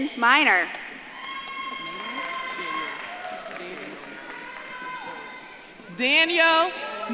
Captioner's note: audience claps and cheers